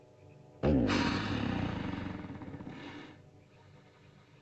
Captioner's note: ominous music; dinosaur snorts